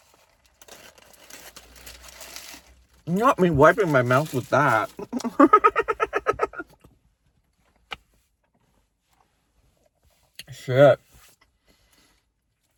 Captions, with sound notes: Not me wiping my mouth with that. (laughs) Shit.